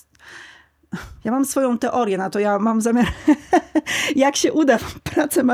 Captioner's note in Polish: wciągnięcie powietrza; śmiech